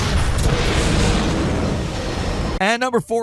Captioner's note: gun blasts; alien roars